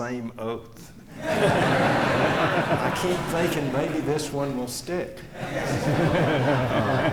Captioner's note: laughter